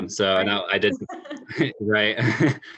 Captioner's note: laugh